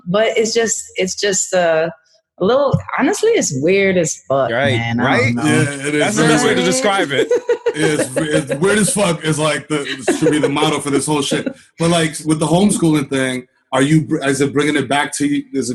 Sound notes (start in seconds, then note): 7.8 laughs